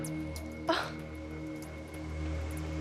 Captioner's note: sighs